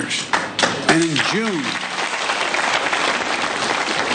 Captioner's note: applause